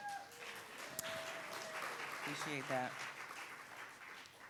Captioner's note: audience applauding